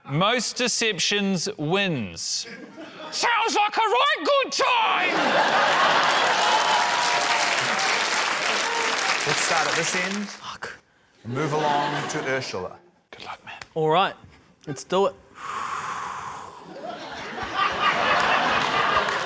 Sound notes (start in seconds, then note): 5.0 laughter, applause; 15.2 exhales; 16.7 laughter